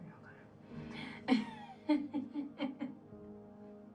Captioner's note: laughing